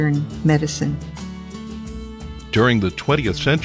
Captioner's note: voiceover